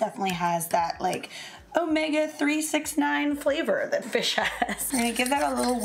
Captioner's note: laughs